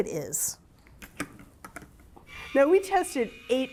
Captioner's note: can opener clicks and whirs